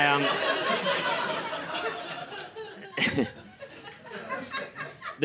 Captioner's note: laughter